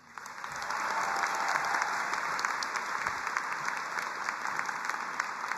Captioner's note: audience applauding and cheering